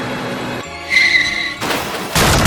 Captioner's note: car Crash